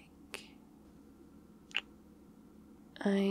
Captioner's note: kiss